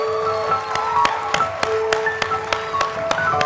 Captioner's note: applause; piano music